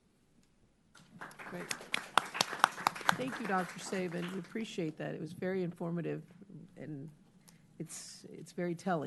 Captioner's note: applause